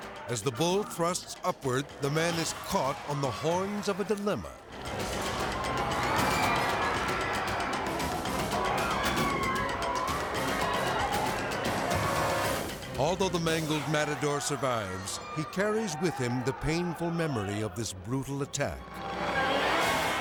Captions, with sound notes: As the bull thrusts upward, the man is caught on the horns of a dilemma. (people clamoring) Although the mangled matador survives, he carries with him the painful memory of this brutal attack. (tense music)